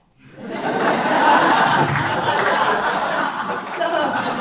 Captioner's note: audience laughs